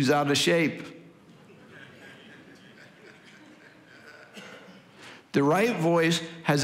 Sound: congregation laughing

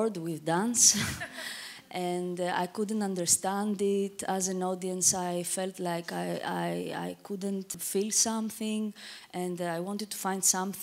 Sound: audience laughter

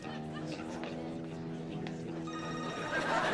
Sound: ringing

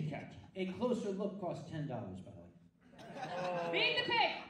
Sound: audience laughs

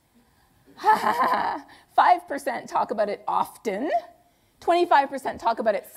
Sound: laughs

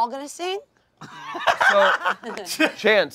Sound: laughing

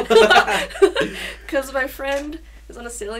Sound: both laugh

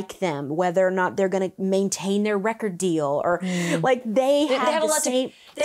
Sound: none

